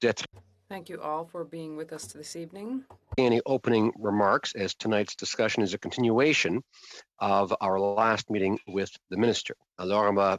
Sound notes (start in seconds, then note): 2.4 speaking French